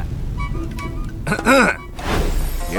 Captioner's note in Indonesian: batuk